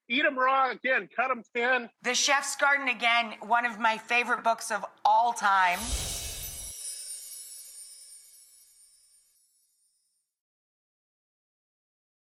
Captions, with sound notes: Eat 'em raw. Again, cut 'em thin. The "Chef's Garden." Again, one of my favorite books of all time. (gentle chiming)